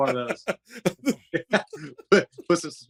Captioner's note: laughter